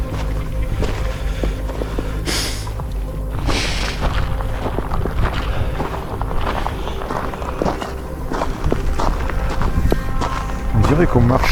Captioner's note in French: grognement